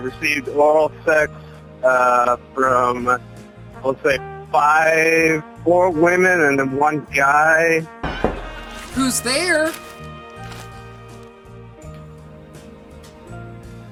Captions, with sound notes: I've received oral sex from, let's say, four women and then one guy. (door knocking) - Who's there? (soft music)